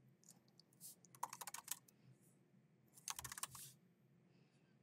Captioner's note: keyboard clacking